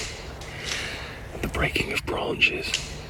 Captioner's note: branches breaking